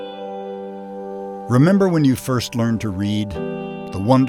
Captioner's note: voiceover